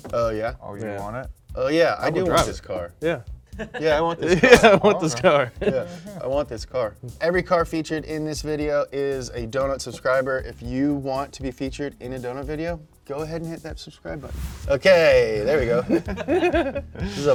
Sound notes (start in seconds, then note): 3.5 chuckles; 14.2 air whooshing; 15.6 both laughing